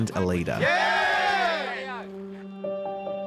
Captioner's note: cheering